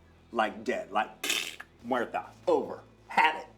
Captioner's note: mimics choking